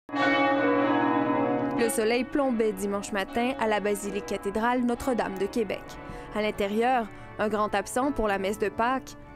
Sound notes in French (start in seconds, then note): 0.1 tintement de cloches